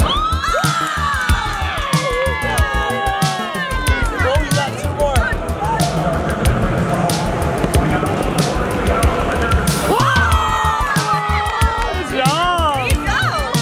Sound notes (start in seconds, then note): 0.1 people clamoring; 9.7 people clamoring